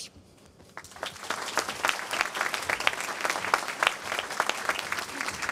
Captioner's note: applause